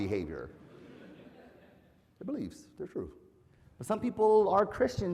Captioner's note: laugh